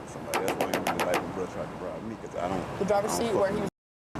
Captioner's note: pill bottle thumping